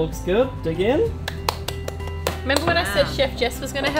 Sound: clapping

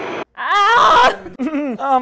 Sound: screaming

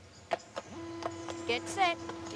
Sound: gate motor whirring

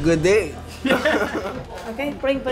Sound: laughs

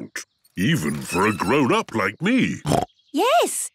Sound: snorts

